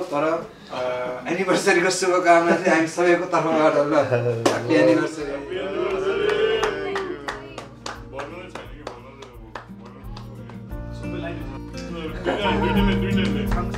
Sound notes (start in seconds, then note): 7.4 clapping